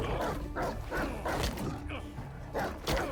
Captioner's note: growling